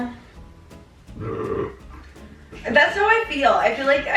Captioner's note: belching